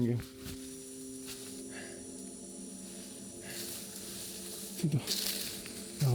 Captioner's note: breathes hard